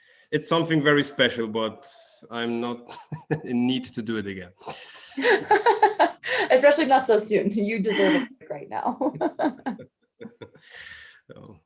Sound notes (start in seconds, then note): 4.6 multiple speakers laugh; 8.9 laughs